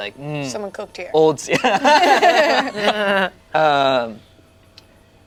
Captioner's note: group laughs